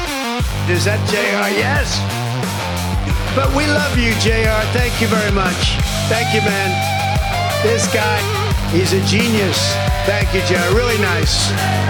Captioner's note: crowd